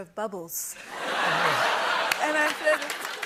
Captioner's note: laughter and applause